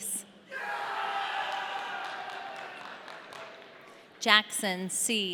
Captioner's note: audience cheering